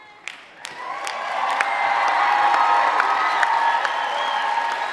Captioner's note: applause and cheering